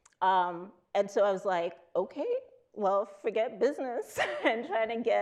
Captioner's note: chuckles